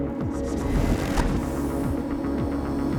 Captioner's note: electric noise